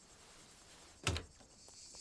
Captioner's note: door Opens